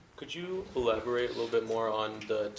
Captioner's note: voiceover